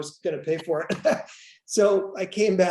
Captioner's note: laughs